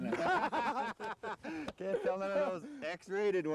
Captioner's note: laughter